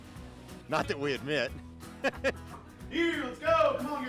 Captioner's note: laughs